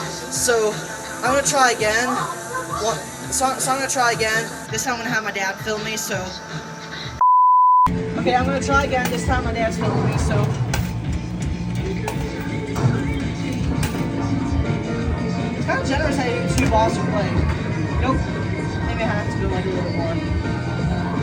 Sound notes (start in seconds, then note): 10.1 inserting quarters